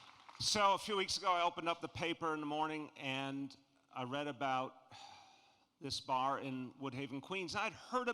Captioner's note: jFAPPLAUSE